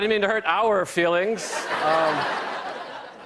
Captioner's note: laughter